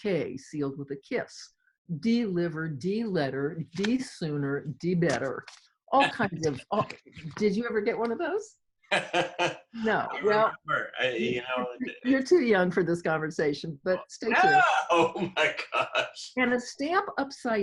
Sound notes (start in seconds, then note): 8.9 laughing; 14.3 laughing